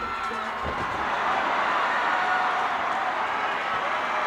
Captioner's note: crowd cheers